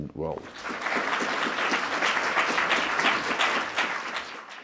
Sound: applause

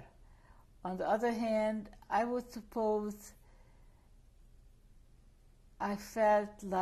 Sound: pauses for 3 seconds

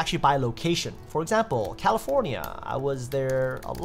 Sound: keyboard typing

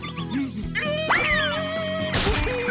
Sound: Yellow screams

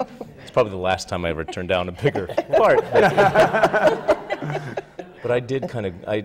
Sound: laughter

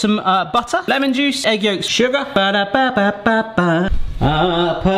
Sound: humming

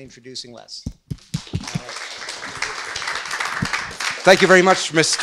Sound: audience applauds

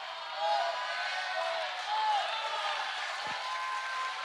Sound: cheering

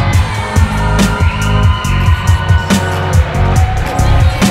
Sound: cheering

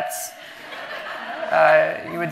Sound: audience laughing

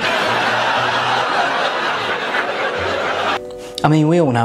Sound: audience laughs

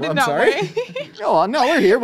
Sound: laughs

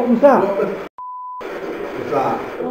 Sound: beep

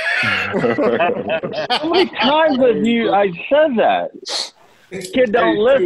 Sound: laughter

